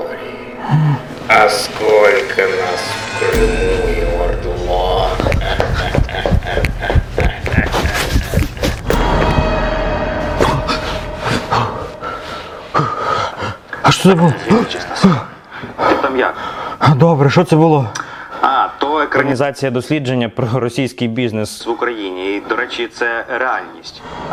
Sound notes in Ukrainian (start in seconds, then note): 5.2 злий сміх